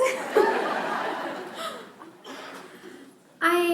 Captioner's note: laughter